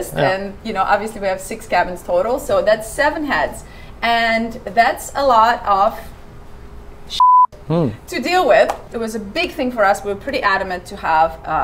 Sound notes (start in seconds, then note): 7.1 beep